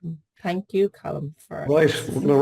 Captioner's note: giggles